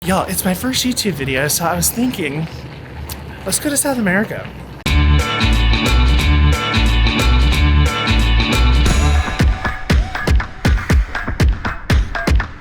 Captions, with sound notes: - Y'all, it's my first YouTube video, so I was thinking... (clicks teeth) Let's go to South America. (upbeat music) (lively techno music)